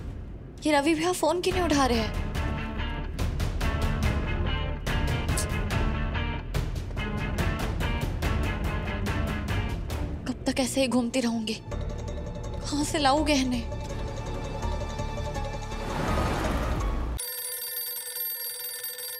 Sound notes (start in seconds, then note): 15.4 car passing; 17.1 phone ringing